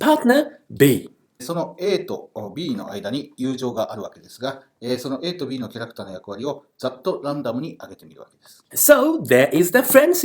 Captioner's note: speaking Japanese